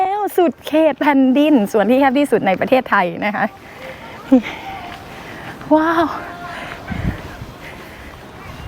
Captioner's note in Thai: ปรบมือ